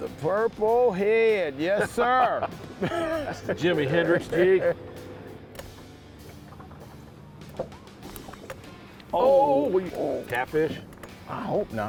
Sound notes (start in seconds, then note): 2.3 laughing